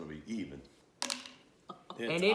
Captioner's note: dice Hitting Table Sound